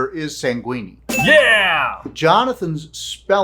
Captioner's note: ding